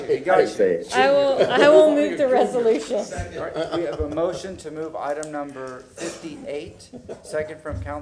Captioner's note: laughter